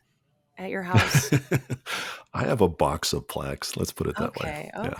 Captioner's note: laughs